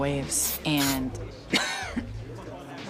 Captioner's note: coughs